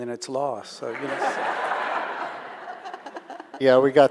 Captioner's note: audience laughing